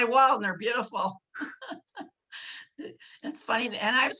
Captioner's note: laughing